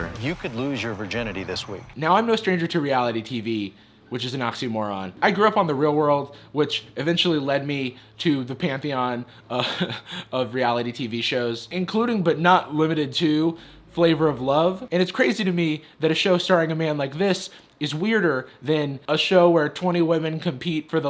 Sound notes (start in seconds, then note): 9.5 laughs